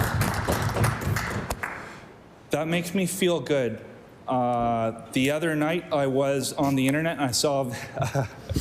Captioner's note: applause